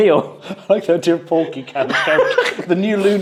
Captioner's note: laughs